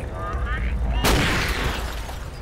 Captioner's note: gunshot